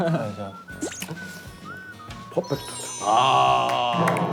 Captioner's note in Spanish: Masticar